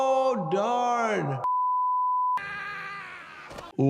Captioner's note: test pattern beeping; man screaming